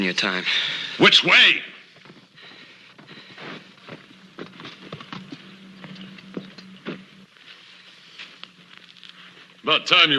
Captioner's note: hoofbeats approaching